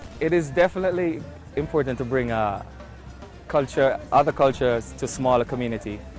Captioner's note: voiceover